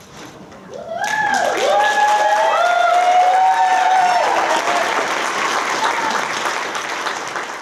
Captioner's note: applause